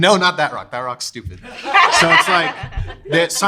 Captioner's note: everyone laughs